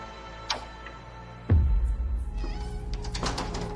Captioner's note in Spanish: Ruido al abrir la puerta